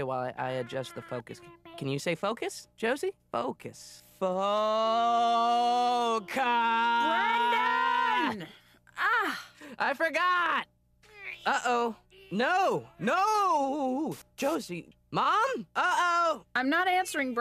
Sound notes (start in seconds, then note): 5.3 sounds out word; 9.1 groans; 12.1 shouts